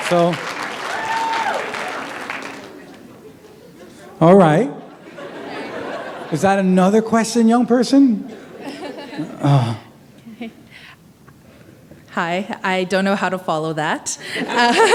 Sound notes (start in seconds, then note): 2.5 laughter